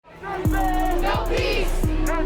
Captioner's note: crowd